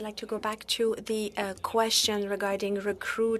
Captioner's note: speaking in French